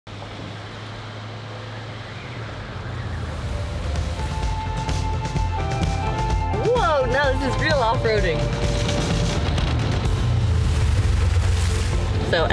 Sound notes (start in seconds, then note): 3.0 splashing; 4.7 upbeat music; 10.2 splashing